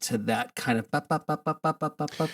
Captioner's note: imitates clav singing